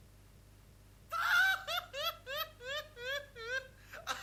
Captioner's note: laughter